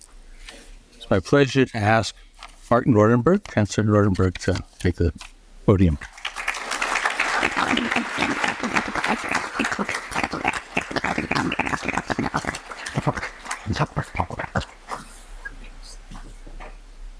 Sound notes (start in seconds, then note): 9.6 applause